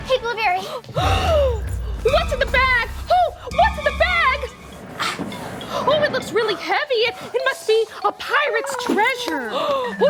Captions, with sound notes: - Hey Blueberry! - (gasps) What's in the bag? Oh, what's in the bag? Oh, it looks really heavy, it must be a pirate's treasure.